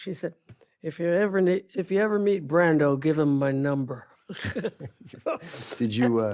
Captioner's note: laughs